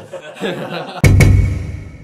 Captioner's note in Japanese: 笑い